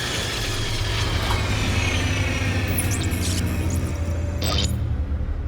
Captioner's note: electronics powering down